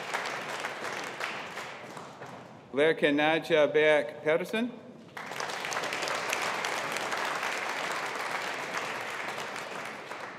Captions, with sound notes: Laerke Naja Baek Pedersen. (AUDIENCE APPLAUDING)